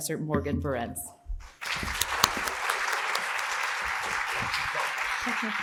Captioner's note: audience applauding